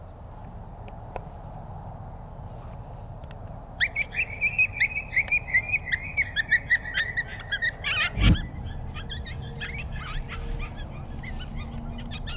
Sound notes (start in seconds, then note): 4.2 pup howling